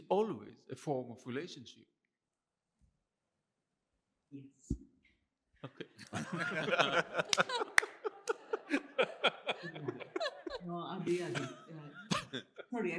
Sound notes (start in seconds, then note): 5.6 laughter; 7.1 applause